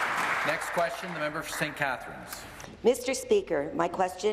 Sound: applause

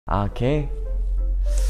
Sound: unsure breath in

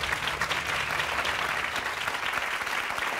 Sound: applause

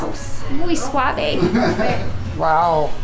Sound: laughs

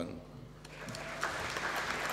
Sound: applause

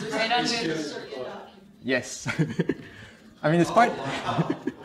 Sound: laughs

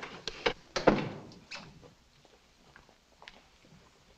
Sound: door thuds shut

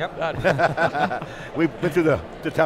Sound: laughing

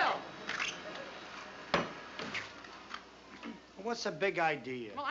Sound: vacuum running

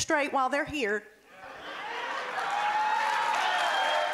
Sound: cheering and applause

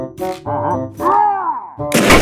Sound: screams

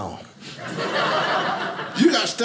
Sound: audience laughing

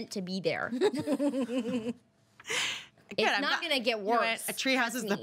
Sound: girl laughs

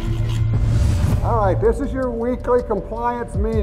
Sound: voiceover

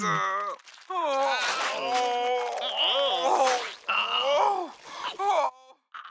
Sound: groaning

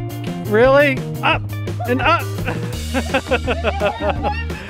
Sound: laughs

